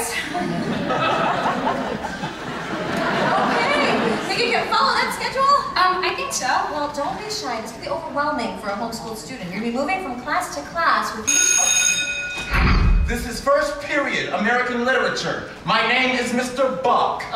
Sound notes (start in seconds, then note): 0.1 audience laughs; 11.2 bell rings